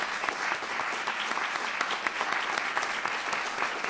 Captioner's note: applause